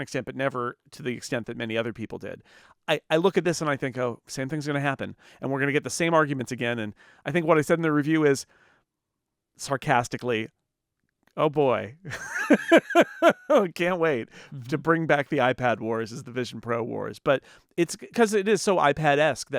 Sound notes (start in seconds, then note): 12.1 laughs